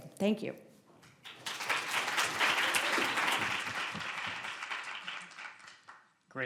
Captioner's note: applause